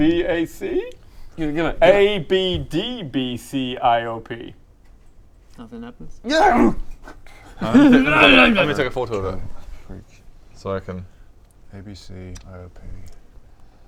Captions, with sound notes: BAC? Give it! ABDBCIOP? Nothing happens *Alan-imal noises* *grrrrargh!* I'm gonna take a photo of it so I can ABC OP